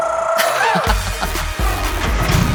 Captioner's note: laughter